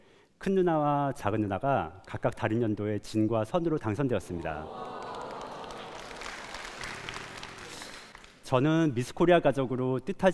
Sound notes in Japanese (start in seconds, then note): 4.4 感嘆と拍手